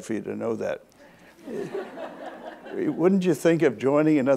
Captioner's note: audience laughs